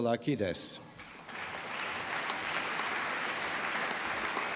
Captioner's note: applause